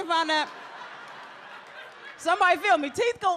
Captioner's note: audience laughs